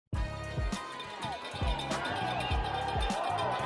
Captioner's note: fans cheering